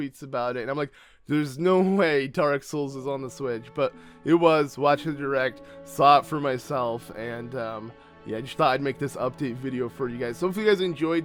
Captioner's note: gasp